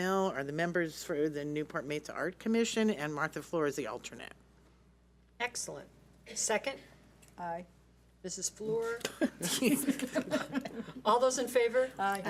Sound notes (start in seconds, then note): 8.9 board members chuckle